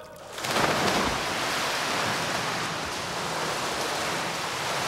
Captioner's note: water splashing